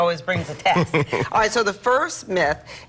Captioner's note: laughter